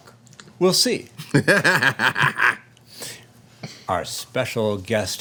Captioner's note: laughing